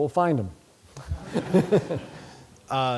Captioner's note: laughter